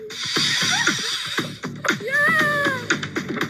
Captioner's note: zip-line whirring